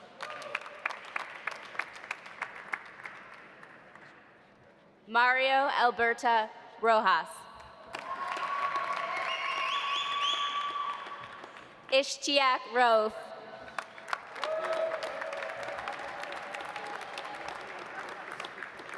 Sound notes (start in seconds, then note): 0.0 audience applauding; 7.9 audience applauding; 8.0 audience cheering; 13.7 audience applauding; 14.3 audience cheering